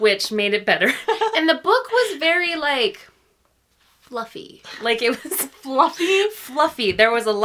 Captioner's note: laughs